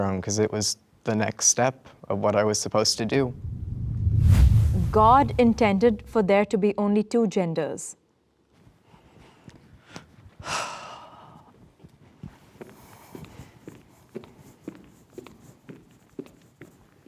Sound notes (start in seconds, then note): 10.4 sighing loudly; 13.5 footsteps echoing